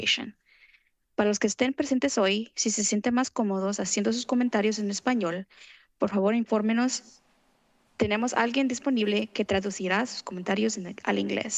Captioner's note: foreign language